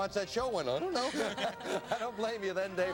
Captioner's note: laughs